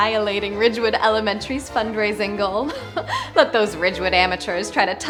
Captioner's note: giggles